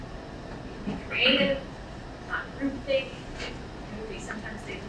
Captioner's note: speaking away from mic